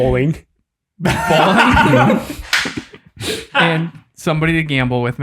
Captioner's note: group laughs